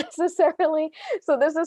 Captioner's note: laughs